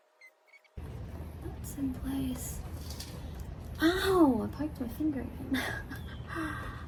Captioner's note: laughs wryly